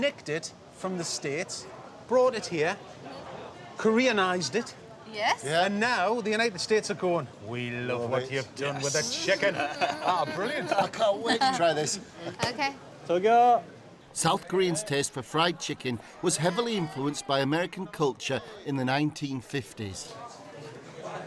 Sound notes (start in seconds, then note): 13.8 speaking Korean